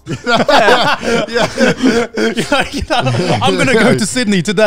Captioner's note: all laughing